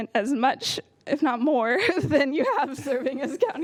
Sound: laughter

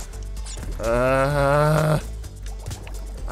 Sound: distressed whale sounds

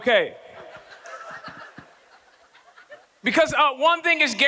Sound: audience laughing

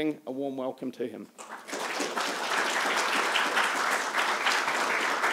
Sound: applause

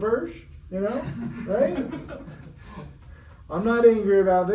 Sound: everyone laughing

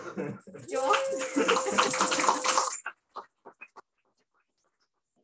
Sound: applause

